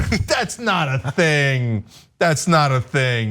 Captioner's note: laugh